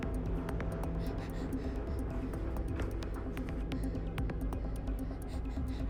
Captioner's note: tense adventurous music; Olive breathing heavily